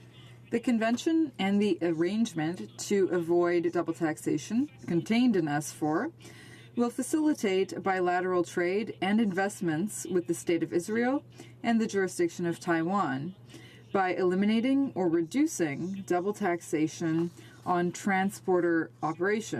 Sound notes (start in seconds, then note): 4.0 speaking in french